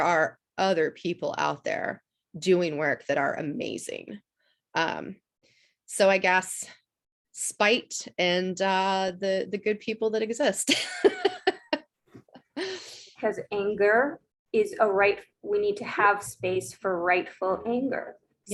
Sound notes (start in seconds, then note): 10.9 laughs